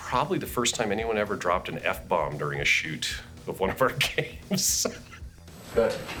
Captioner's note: laughs